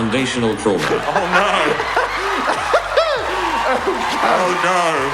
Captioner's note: laughing